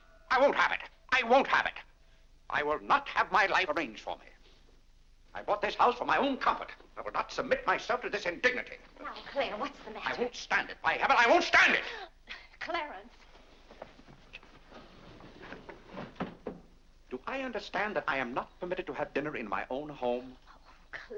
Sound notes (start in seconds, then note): 15.0 doors slide shut